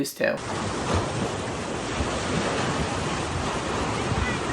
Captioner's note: water splashing